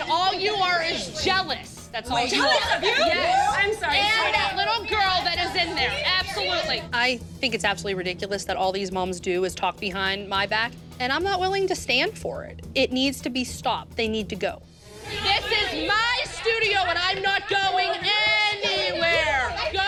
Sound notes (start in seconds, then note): 2.9 angry chatter